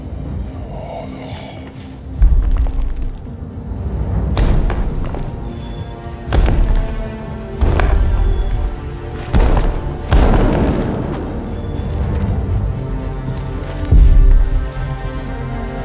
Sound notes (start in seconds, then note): 2.2 rocks crumbling; 5.5 heavy thumping